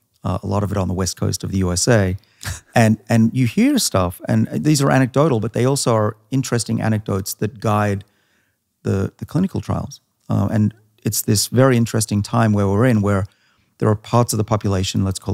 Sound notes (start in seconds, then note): 2.4 laughs